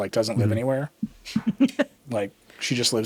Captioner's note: laughing